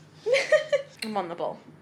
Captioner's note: laughs